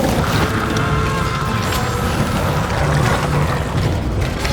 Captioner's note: Darlus screaming